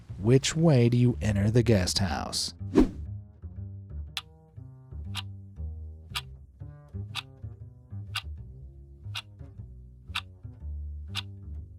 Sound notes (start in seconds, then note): 5.1 clock ticking